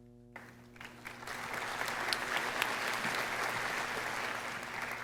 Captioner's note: audience applauding